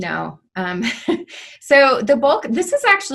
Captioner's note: chuckles